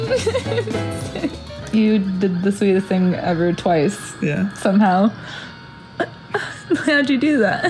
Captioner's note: laughs